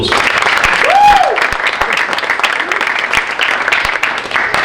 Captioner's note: audience applauding